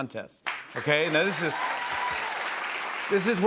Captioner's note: cheers and applause